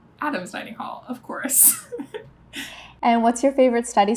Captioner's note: laughs